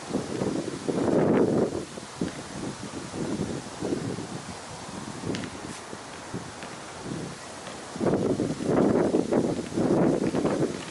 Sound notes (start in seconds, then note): 5.5 hand scraping; 8.1 wind howling